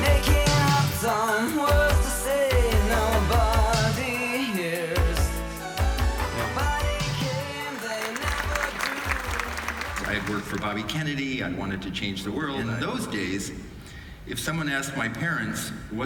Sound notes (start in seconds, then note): 7.4 audience clapping